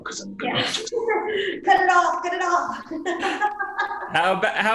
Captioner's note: laughs